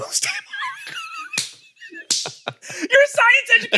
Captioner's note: laugh